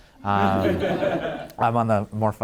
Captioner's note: laughing